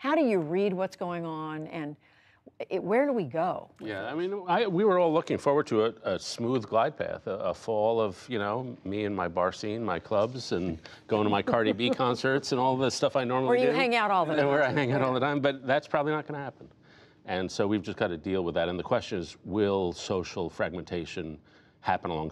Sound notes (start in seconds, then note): 14.4 laughter